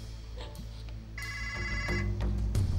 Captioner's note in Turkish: telefon çaliyor